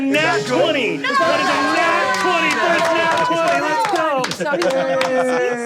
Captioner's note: players cheering